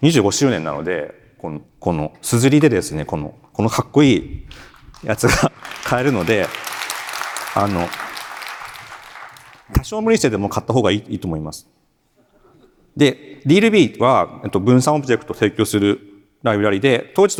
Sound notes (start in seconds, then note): 6.7 chuckles; 7.6 applause